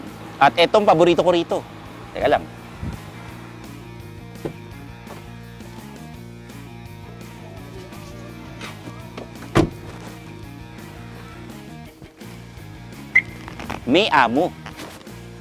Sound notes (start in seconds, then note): 4.3 door opens; 9.1 door thuds